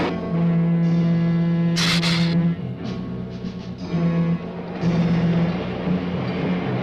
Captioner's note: engine rumbling; dramatic music; lizard hissing